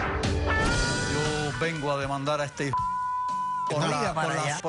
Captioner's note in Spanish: Bip